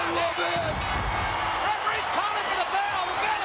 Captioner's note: bell rings